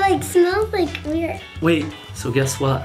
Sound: none

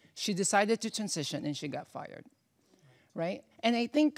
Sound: none

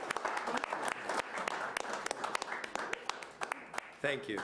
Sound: attendees applauding

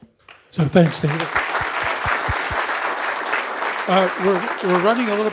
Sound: applause

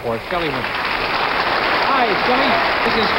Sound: audience applauding

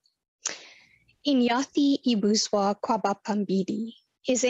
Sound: foreign language

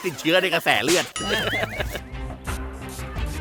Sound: laughs

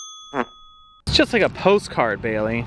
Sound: dings

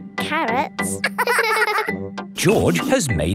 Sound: both laughing

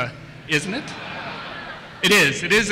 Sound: laughter

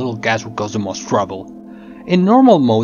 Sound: gasp

